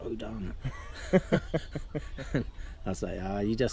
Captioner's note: laughs